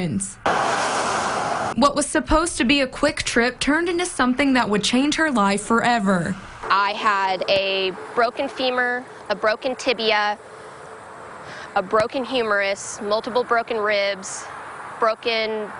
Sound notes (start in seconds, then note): 0.3 nats cars driving